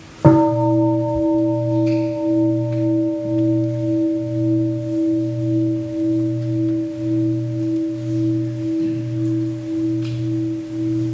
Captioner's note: gong